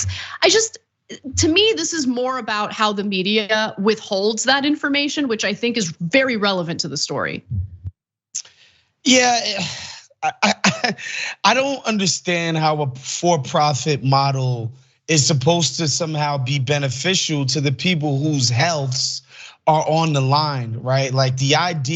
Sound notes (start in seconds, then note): 9.1 laugh